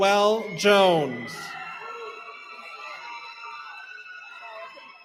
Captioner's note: cheering